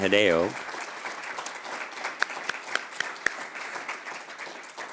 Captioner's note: applause